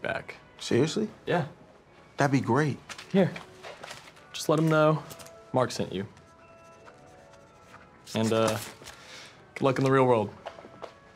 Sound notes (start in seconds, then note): 6.5 scribbling